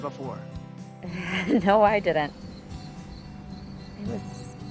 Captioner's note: laughs